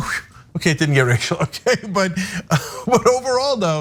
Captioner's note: laugh